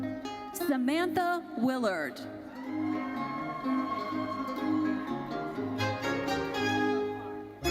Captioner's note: audience cheers